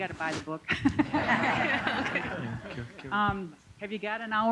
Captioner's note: laughter